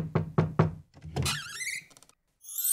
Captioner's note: door squeaks and opens